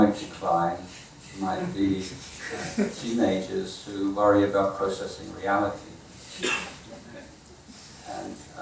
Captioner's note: audience member chuckling